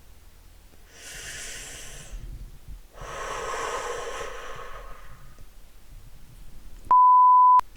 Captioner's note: long, disappointed breath in and out